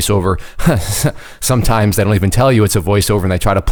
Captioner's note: laughing